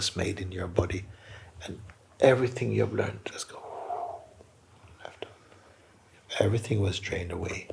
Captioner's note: long exhale